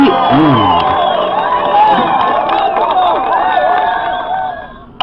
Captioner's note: applause, cheering